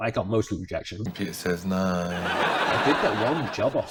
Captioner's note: people laughing